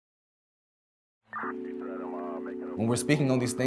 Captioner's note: police radio scanner